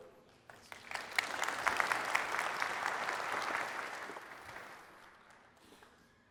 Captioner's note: applause